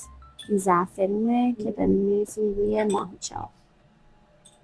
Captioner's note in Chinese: 波斯语